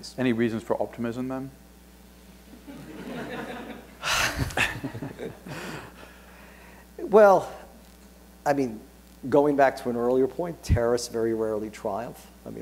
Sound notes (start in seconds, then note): 2.5 laughter; 5.3 chuckles